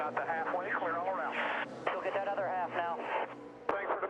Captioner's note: radio